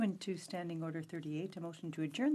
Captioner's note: speaking FRENCH